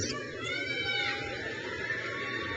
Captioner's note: crowd cheers